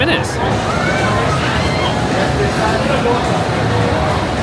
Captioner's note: ambient crowd noise